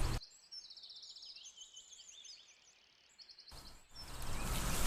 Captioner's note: birds chirping